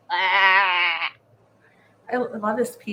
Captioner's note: groans